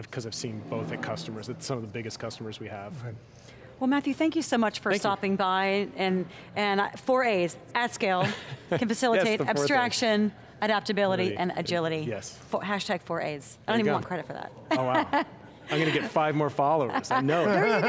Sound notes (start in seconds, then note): 14.7 laughs; 16.8 laughs